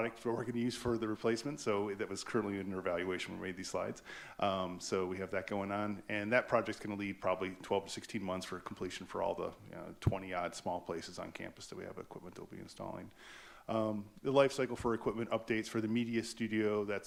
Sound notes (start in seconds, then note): none